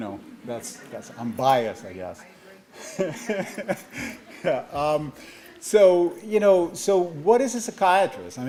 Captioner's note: laughs